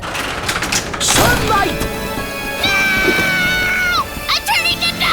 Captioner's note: screams